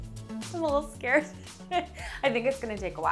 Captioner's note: laughing